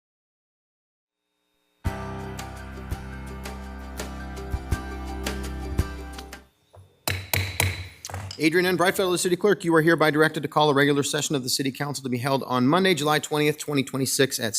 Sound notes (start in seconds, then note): 1.9 upbeat music; 7.0 gavel banging